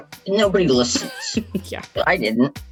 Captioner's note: laughs